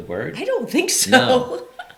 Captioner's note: laughs